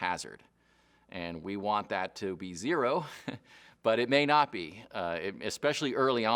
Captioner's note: chuckles